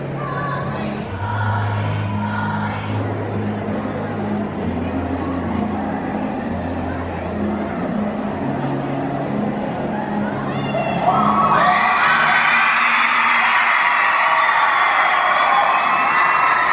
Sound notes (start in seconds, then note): 0.1 sweet music playing; 10.6 audience screaming